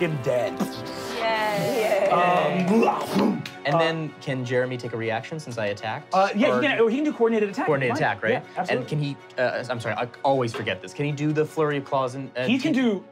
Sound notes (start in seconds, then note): 3.1 groaning